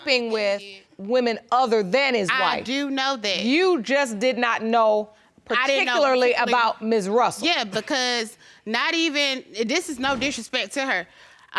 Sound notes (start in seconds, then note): none